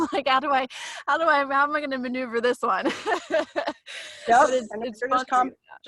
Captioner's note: laughs